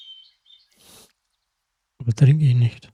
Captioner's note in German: schnauben